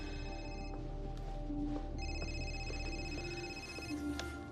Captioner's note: phone ringing